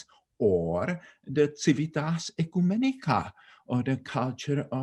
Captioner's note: speaking in foreign language